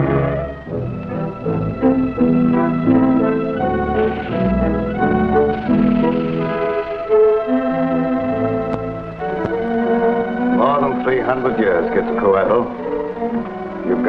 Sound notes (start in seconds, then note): 0.9 dramatic music; 3.6 serpent hisses and rattles